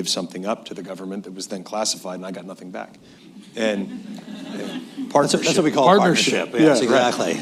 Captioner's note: laughter